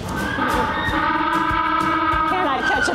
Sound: penguin braying

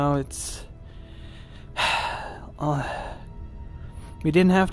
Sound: heavy sigh

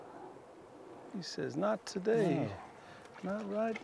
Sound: splashing

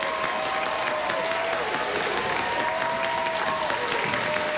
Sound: applause

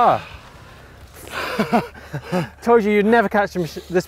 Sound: laughing

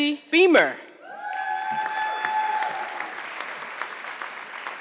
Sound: audience clapping

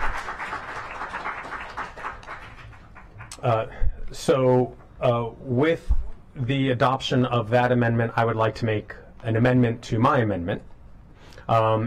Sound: clapping

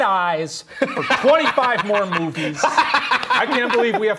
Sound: laughing

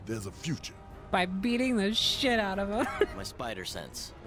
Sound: laughing

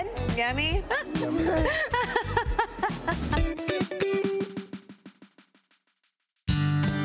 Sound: laughs

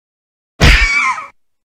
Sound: punch

